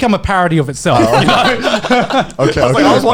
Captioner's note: laughing